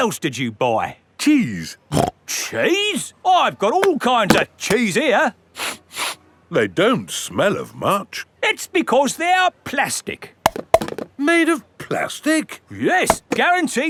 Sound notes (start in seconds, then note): 1.9 snorts; 5.6 sniffs; 10.5 clunks